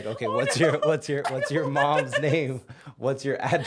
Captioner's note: laughing